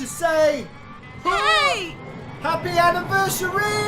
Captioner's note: screams